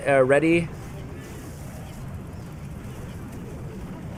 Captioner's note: game sounds